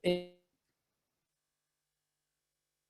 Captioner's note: silence